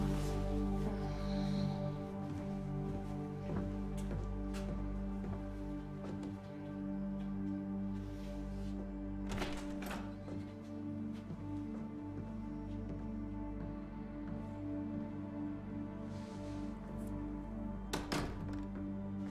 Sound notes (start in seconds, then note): 0.9 sighs